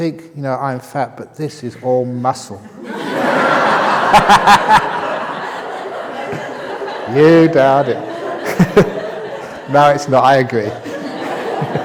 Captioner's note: laughter